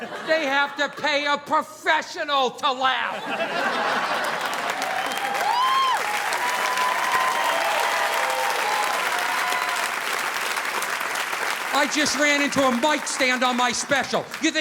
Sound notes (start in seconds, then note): 3.0 audience laughing; 3.4 audience applauding